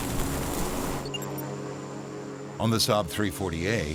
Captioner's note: airplane engine roaring; tinkling